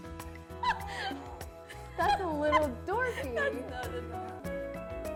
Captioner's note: laugh